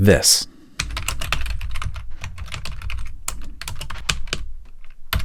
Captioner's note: keyboard clacking